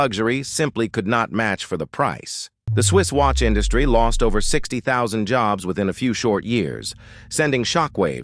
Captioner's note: SFX: low dramatic bass drop